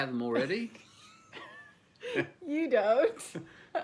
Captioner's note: laughing